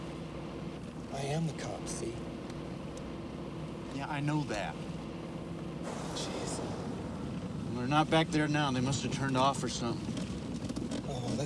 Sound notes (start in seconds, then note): 7.1 car engines revving